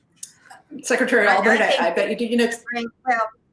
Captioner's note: murmurs